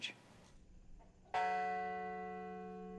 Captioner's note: bell ringing